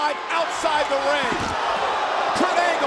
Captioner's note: bodies thud; audience groans